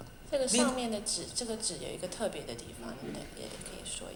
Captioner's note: Mandarin